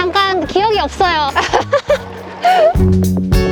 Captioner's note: laughter